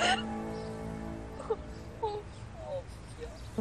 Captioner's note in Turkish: ağlıyor